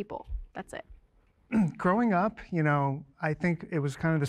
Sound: clears throat

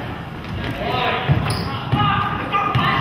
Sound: none

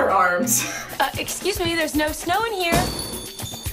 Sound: bell ringing

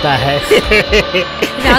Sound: laughs

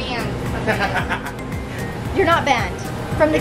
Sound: laughs

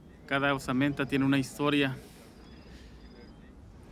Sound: man speaks Spanish

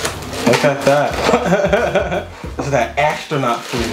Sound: laughter

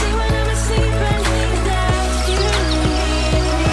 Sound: water trickling; birds chirping

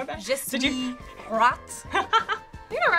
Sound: laughing

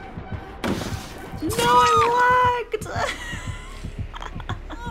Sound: laughs

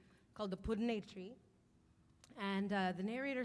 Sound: speaking in language other than English

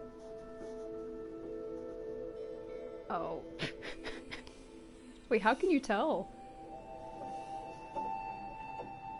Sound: laughs

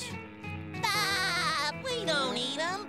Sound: laughing

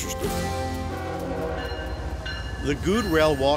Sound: rail crossing bells; train horn blaring

